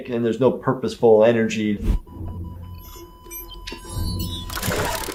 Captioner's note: machine sound